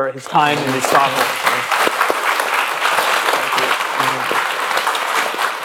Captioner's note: applause